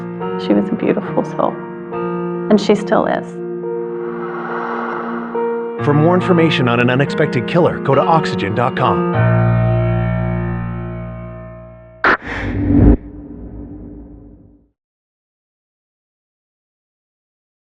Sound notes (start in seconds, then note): 12.1 person ininhales; 14.5 eerie m music